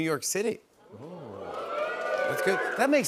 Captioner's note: audience "Oohs"